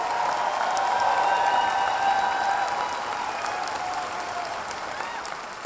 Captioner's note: audience cheering